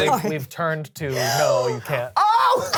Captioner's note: laughs; gasps